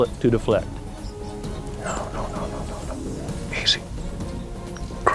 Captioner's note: whispering